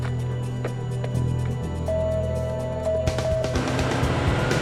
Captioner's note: doorbell ringing